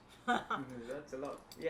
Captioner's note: laughs